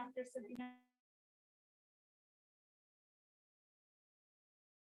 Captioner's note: audio cuts out